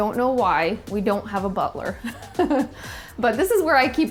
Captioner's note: laughs